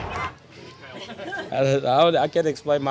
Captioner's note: laughter